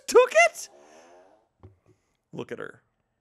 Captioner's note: fart machine farts